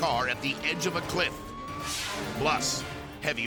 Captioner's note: screen whooshes